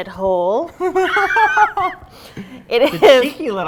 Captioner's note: both laughing